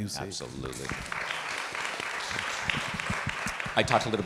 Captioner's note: participants clapping